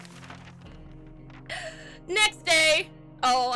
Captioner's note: inhales; laughs